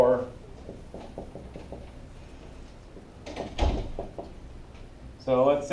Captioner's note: marker on whiteboard